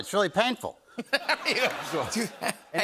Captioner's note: laughter